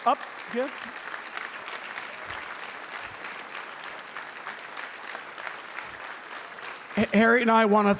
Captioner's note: applause